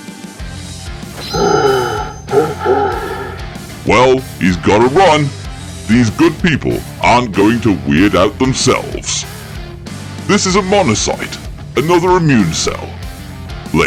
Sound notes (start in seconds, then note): 3.9 indistinct gas mask noises